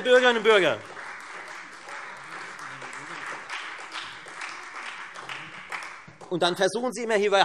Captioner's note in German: Beifall